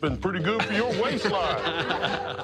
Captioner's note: laughing